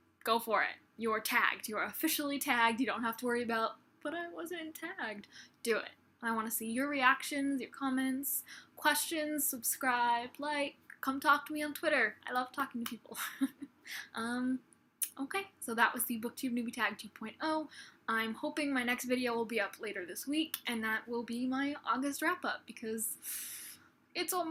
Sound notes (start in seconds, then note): 14.0 laughs